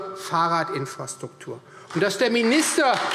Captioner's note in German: Beifall Freie Demokraten